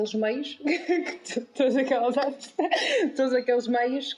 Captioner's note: laughs